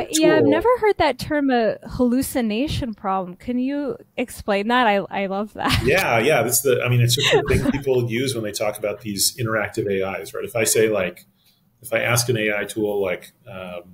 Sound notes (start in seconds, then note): 7.1 laughing